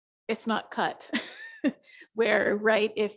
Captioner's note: chuckles